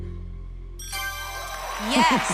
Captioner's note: ding